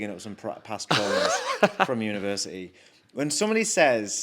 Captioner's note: laughs